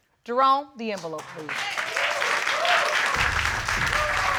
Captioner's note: applause